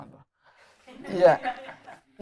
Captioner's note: laughter